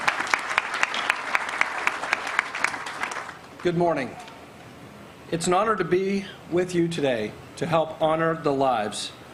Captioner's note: applause